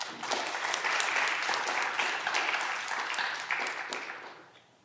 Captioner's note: audience clapping